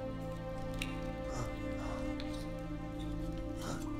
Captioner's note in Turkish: Nefes sesi